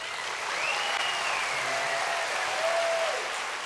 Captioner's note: applause